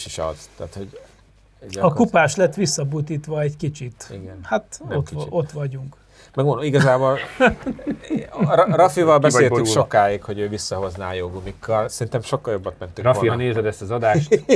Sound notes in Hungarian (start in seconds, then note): 6.7 nevetés